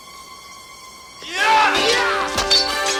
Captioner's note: both yelling